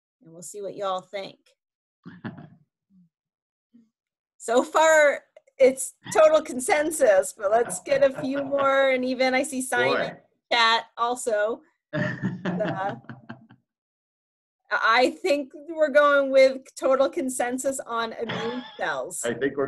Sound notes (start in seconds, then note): 11.9 laughs